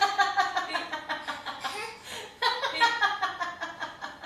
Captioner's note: baby laughing